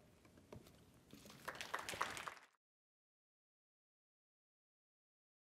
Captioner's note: audience applauds